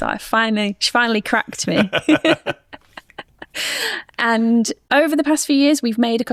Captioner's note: both laughing